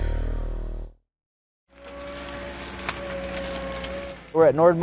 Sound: wood crackling

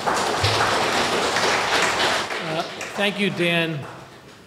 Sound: audience applause

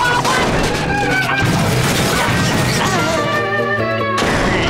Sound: yelling

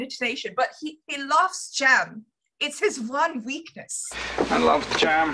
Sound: doing a bad German accent

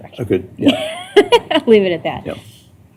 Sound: laughter

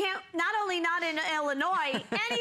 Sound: laughter

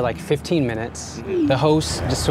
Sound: text message alerting

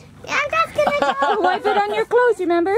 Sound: laughing

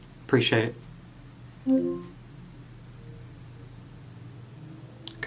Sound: electronic trilling

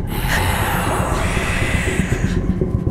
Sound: creepy Voice

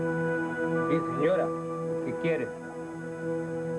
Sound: in Spanish

